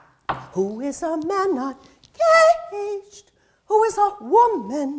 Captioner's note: knocking